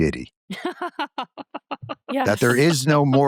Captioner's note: laughter